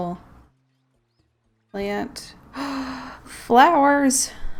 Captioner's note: gasp